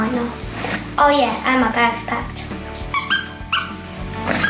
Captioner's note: squeak!